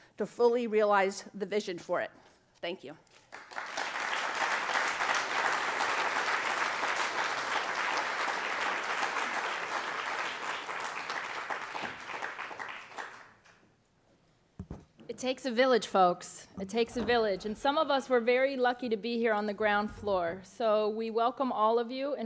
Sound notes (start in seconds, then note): 3.5 applauding